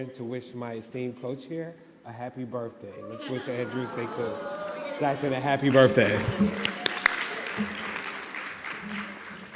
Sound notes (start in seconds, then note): 3.0 audience cooing; 6.3 audience applauding